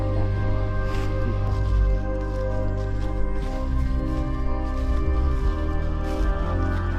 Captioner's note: leaves crunching; tranquil music continues